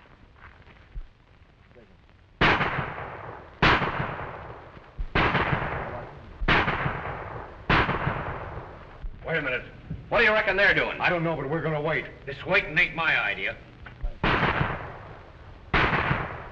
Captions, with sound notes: [gunshots] Wait a minute. What do you reckon they're doing? I don't know, but we're going to wait. This waiting ain't my idea. [gunshots]